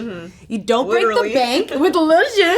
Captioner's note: laughing